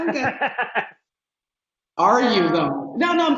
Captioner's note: laughing